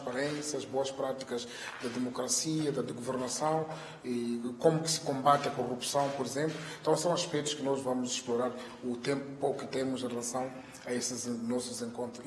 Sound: in Portuguese

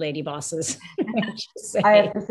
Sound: panel laughs

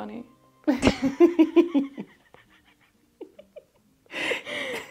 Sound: laughs

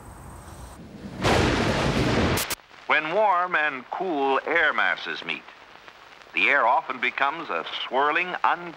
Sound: <i> thunder rumbling</i>

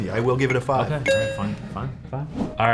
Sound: tone chimes

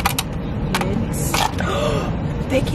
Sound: gasp

